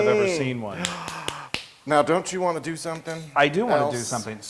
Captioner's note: applause